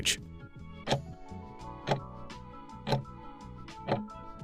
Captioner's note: timer ticking